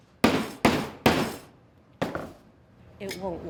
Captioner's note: hammer thudding